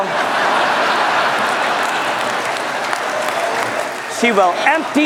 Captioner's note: laughter